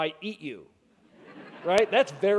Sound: laughing

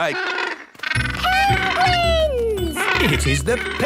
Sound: honking

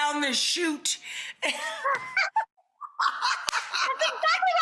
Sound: both laugh

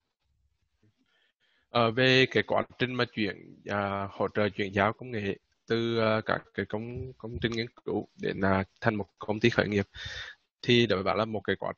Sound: speaking Vietnamese

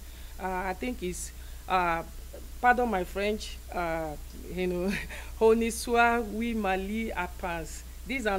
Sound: speaking french

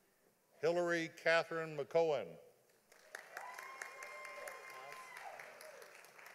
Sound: audience applauding

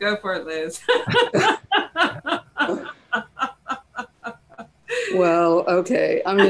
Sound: laughing

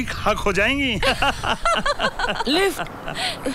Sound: laughs

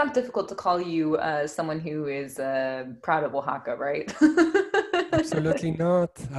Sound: giggles

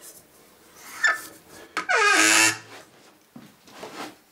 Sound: bright creaking

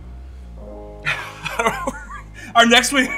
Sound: laughs

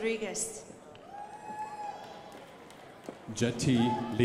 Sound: crowd applauding

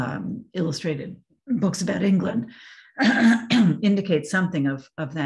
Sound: coughs

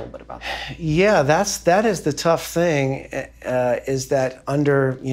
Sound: sighing

